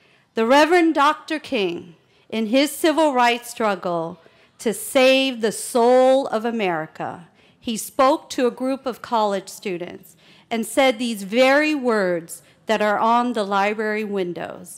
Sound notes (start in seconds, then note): none